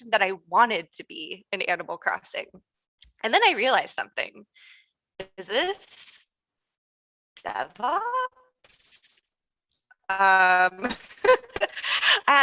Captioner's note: chuckling